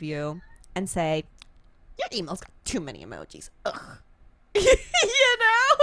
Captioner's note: laughs